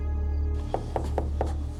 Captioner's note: knocking